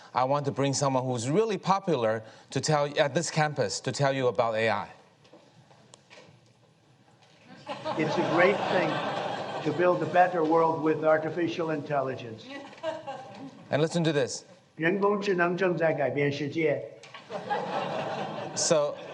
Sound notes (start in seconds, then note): 7.5 audience laughs; 15.1 Trump speaking Chinese; 17.1 audience laughing